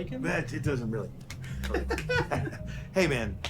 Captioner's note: laughs